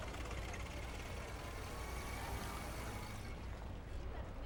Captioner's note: cars driving in the street